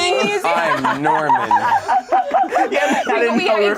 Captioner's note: group laughs